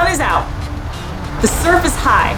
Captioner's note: background music; waves noise